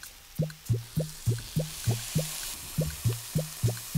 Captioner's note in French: Bruit de friture